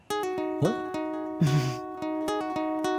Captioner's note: chuckles